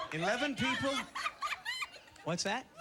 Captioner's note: laughter